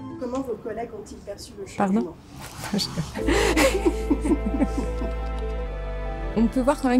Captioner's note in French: Rire